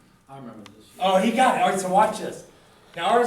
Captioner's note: voiceover